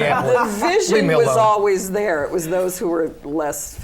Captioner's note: laughter